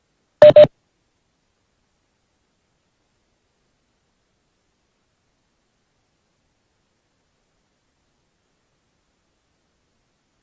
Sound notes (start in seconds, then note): none